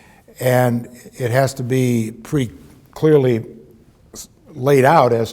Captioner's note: none